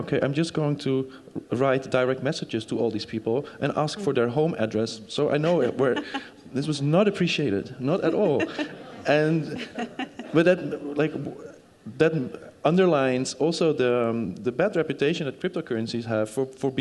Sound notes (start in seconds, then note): 8.0 group laughing